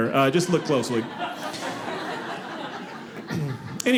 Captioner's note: audience laughing